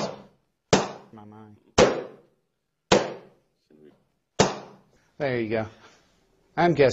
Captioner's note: banging noise